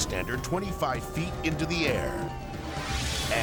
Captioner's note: siren wailing; air whooshes